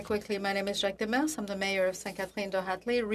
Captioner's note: speaking French